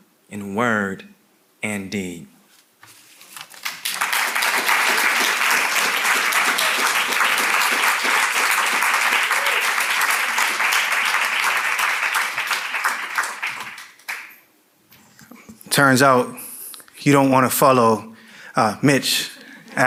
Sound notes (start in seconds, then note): 3.7 audience clapping